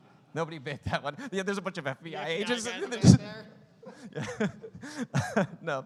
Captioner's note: laughing